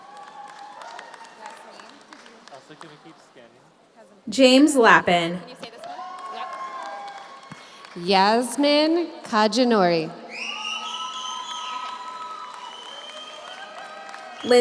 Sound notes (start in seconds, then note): 0.0 audience cheers; 0.0 audience applauds; 5.6 audience applauds; 5.6 audience cheers; 10.2 audience cheers; 10.3 audience applauds